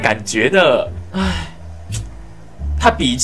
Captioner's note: sigh